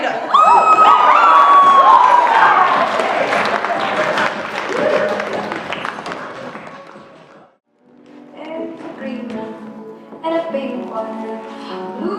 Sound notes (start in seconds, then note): 0.9 applause; 1.6 cheering